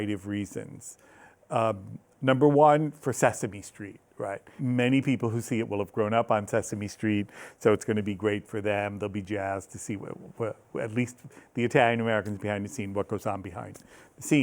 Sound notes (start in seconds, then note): none